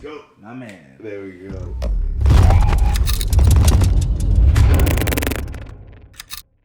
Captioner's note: camera clicking; logo crackling